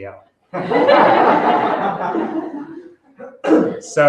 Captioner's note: laughter